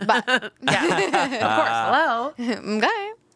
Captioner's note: all laughing